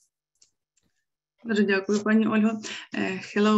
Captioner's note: speaking ukrainian